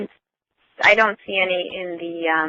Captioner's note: voiceover